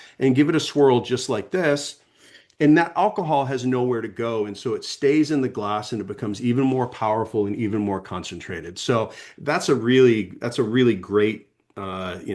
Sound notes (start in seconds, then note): 2.2 sniffing